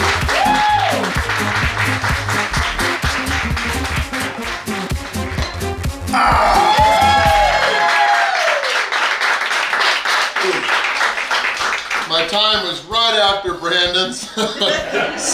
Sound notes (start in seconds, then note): 6.1 cheering; 14.0 haha